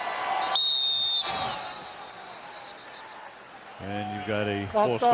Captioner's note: whistle